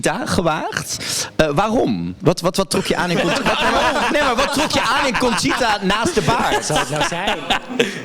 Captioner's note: everyone starts cackling